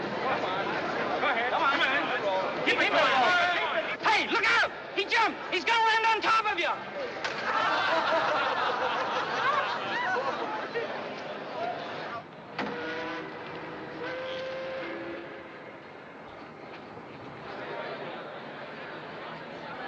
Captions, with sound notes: GO ON. GO AHEAD. COME ON THEN. KEEP IT GOING! HEY, LOOK OUT! HE JUMPED! HE'S GONNA LAND ON TOP OF YOU! [ Laughter ] [ Ship Horn Blowing ] .